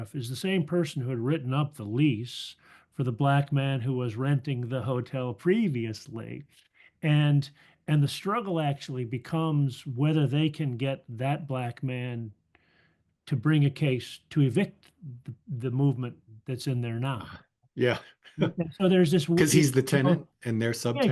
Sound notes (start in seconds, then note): 19.3 laugh